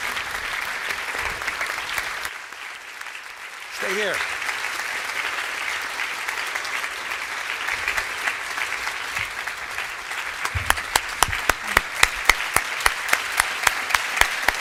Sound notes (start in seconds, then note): 5.3 applause